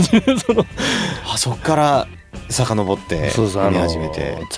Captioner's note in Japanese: 笑い